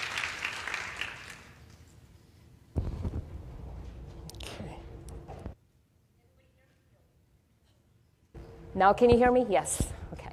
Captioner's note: applause